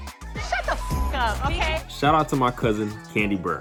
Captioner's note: beep